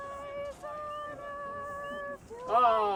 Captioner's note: muffled background chattering